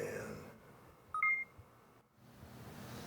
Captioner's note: projector beep